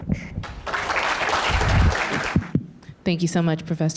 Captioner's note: audience applaud